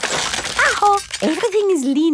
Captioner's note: house creaking